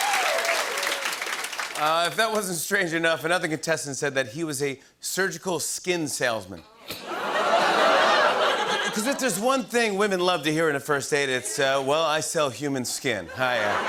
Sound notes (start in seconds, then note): 6.8 audience ohs